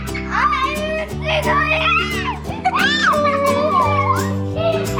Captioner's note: kids laughing and screaming